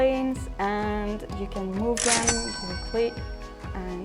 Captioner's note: cash register cha-ching